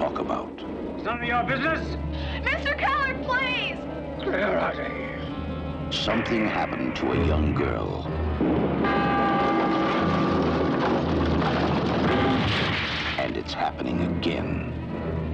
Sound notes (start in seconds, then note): 8.8 bell Tolls